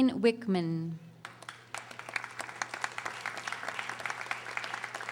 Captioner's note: audience applauding